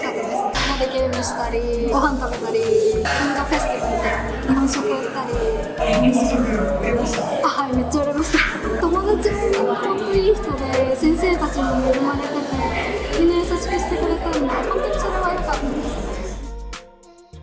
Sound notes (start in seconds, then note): 8.8 laughs